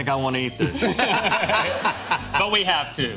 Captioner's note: laughter